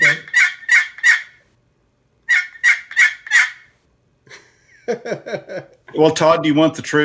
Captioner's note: bird call chirping